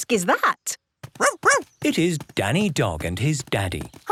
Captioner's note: barking